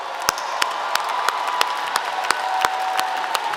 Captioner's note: applause